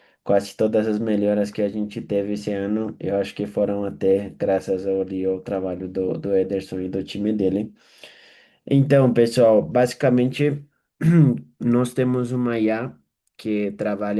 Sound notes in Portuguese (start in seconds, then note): 11.0 limpando a garganta